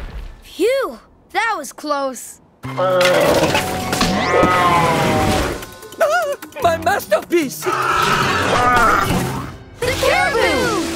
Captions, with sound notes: Phew! That was close. [gasping] My masterpiece. [grunting] The caribou!